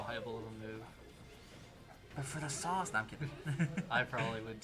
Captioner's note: laughter